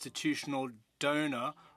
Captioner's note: speaking French